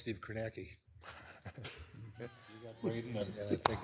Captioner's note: attendees laughing